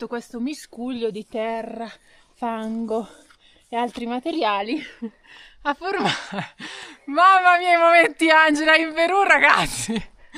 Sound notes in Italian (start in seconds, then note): 6.0 risate